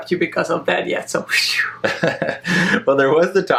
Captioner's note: laughs; sighs of relief